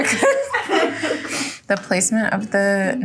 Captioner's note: everyone laughing